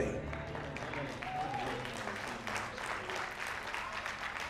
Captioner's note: applause